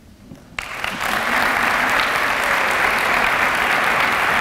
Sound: applause

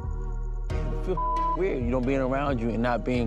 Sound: beep

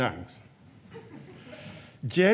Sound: audience chuckles

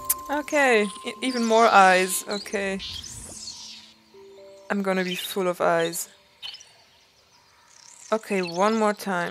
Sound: clicks tongues

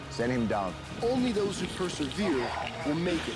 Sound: voiceover

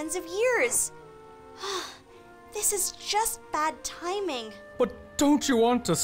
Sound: sigh

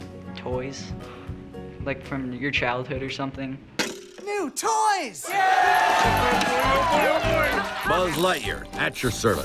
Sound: toys cheering

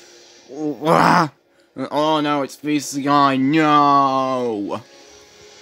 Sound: screams

